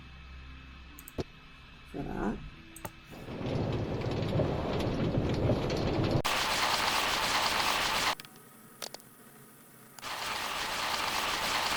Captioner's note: sped-up minecart noise